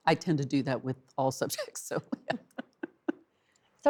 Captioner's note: laughs